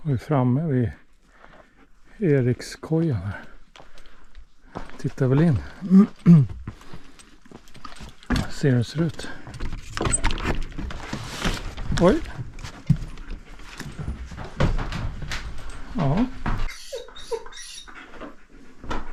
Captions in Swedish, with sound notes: är framme vid Erikskojan här. Tittar väl in. [harklar sig] Ser hur den ser ut. Oj. Ja.